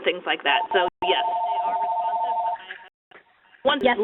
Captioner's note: ringing phone drowns out dialog